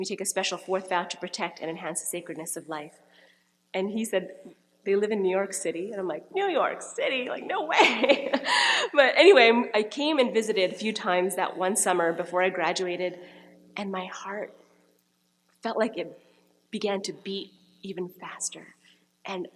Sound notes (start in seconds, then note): 7.8 laughing